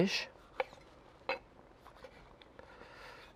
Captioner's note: knife tapping